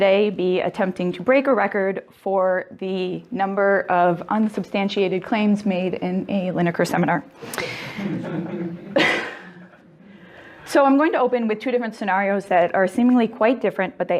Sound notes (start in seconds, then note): 7.7 audience laughing